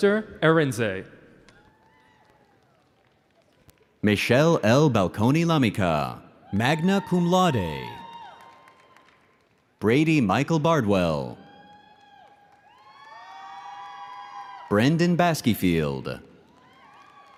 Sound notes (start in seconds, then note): 1.5 audience cheering